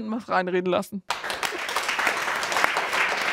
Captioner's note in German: Applaus